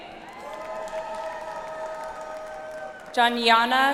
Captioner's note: audience applauds